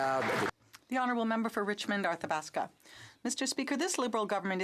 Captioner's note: some Applause